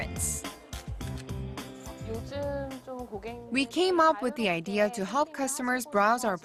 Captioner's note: Korean